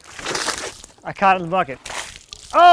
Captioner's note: water sloshing